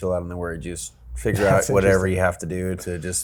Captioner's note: Tom chuckles